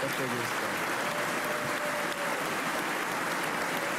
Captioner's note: applause